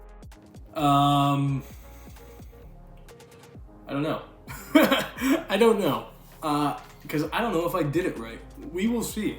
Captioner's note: laughing